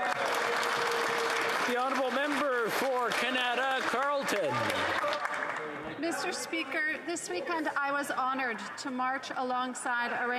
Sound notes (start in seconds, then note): 6.7 applause